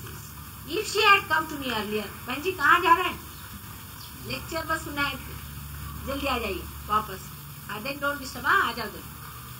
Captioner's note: Shri Mataji speaks in Hindi to someone